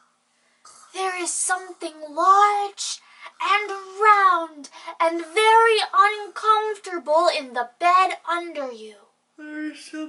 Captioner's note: whispering